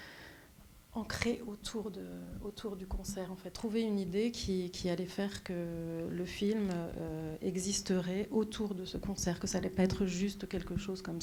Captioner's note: speaking French